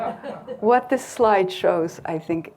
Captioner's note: crowd lightly laughing